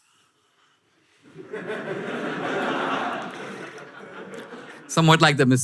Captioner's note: audience laughter